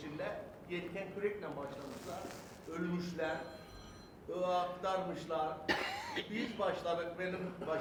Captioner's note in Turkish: kahkaha